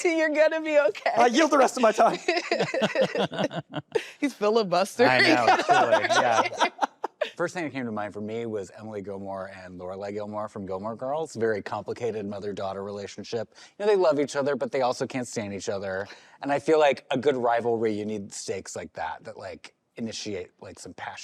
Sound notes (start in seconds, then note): 1.8 laughter